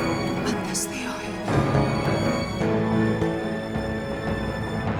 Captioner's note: Phryne speaking in Greek; dramatic music